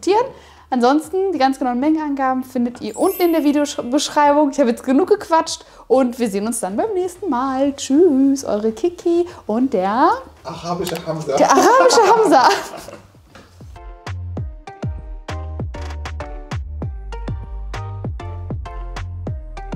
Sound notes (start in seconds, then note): 11.4 laughing